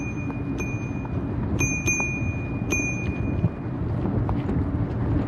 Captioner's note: bike Bell